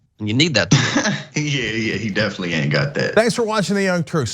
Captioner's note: laugh